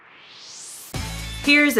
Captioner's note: swoosh